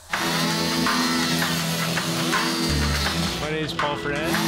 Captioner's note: chainsaw buzzing